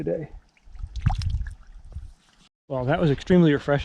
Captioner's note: water splashing